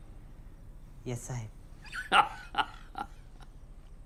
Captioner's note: Anderson laughs